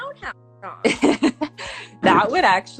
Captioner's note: laughing